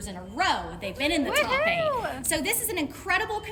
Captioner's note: woman cheering